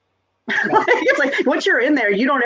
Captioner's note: laughs